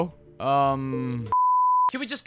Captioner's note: beep